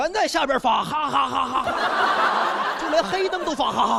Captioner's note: laughing